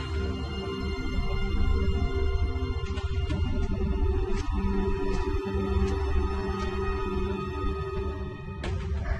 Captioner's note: hard breathing